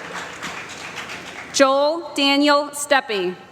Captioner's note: applause